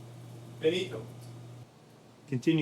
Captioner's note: speaking in Italian